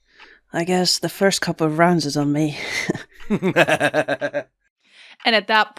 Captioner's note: laughs